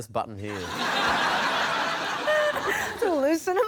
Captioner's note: laughter